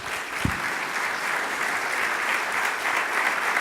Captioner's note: applause